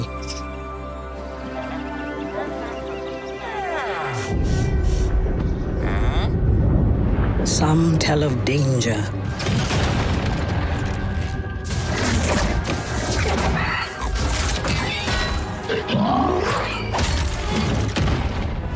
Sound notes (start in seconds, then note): 5.4 sniffing; 15.6 squealing and grunting